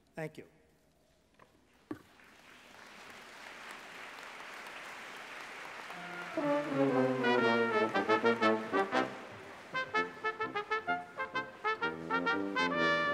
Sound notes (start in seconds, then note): 2.0 applause; 5.9 music from school band